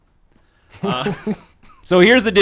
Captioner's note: laughs